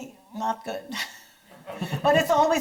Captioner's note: audience chuckles; chuckles